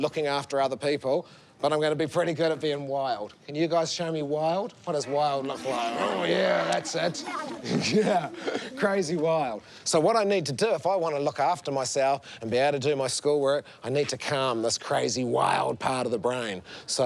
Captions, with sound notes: or looking after people, but I'm gonna be pretty good at being wild. Can you guys show me wild? What does wild look like? (KIDS LAUGH) Oh yeah, that's it. Yeah. Crazy wild. So what I need to do if I wanna look after myself and be able to do my schoolwork, I need to calm this crazy, wild part of the brain.